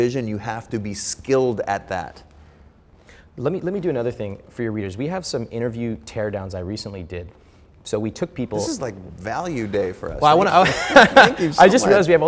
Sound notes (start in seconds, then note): 10.5 laughing; 10.6 laughs